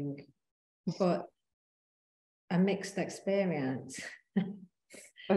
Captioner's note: chuckling